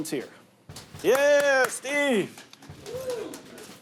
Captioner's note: clapping